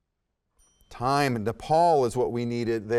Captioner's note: timer chimes